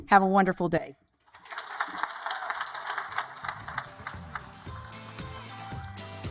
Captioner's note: audience applaud; energetic music